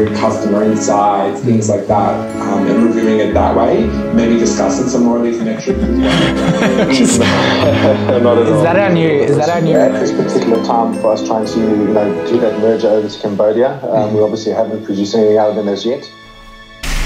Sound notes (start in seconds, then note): 5.3 men laughing